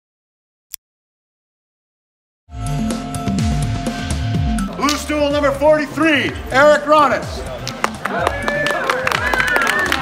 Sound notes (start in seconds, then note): 0.7 mouse click; 2.5 upbeat music; 7.5 crowd applauding; 7.8 crowd cheering